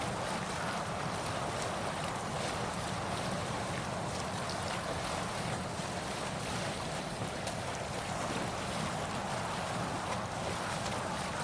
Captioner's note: wind blowing